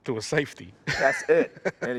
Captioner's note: laughs